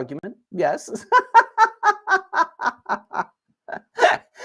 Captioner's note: laughter